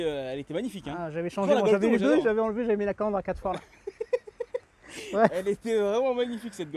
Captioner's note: laughs